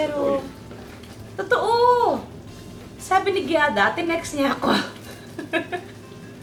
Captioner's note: laughs